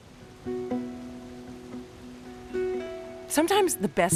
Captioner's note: water rushing